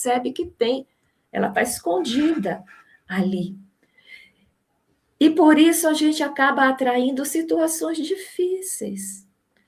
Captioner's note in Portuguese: limpando a garganta